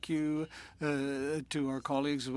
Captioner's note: speaking French